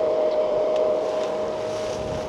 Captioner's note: wind blowing